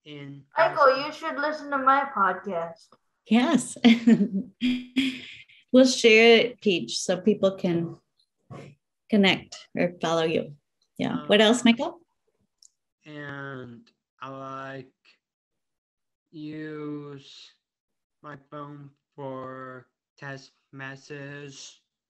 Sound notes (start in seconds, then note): 3.9 giggling